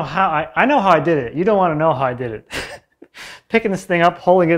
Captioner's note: laughs